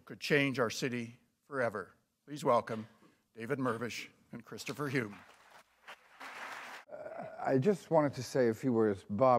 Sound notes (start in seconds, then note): 4.6 applause